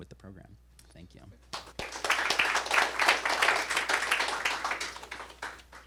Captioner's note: applause